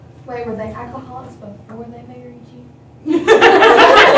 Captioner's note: laughter